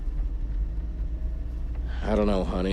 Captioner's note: car engine revving